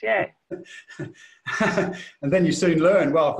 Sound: laughs

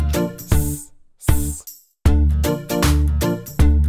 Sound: hissing

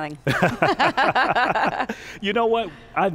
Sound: laughs

